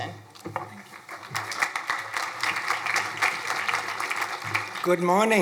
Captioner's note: crowd applauding